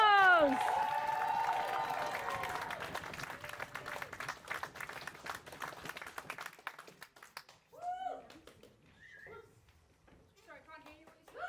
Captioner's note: applause